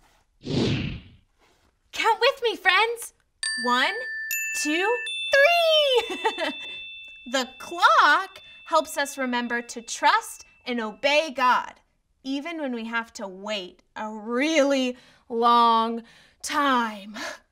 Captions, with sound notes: - Count with me, friends. One. Two. Three! (laughs) The clock helps us remember to trust and obey God, even when we have to wait a really long time.